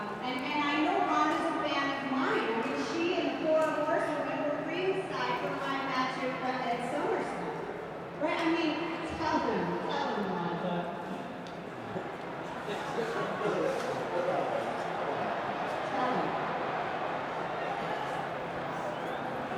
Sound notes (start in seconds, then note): 11.6 crowd chattering; 13.0 people laughing